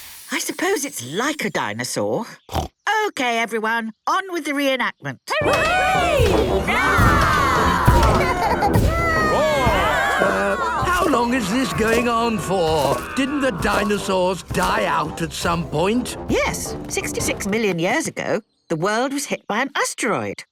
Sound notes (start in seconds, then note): 2.3 snorts; 5.5 cheering; 8.0 roarings, giggling